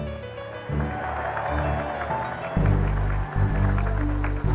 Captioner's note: applause